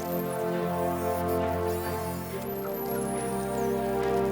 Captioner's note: dolphins clicking and whistling